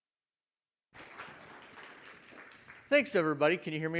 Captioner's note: audience applauds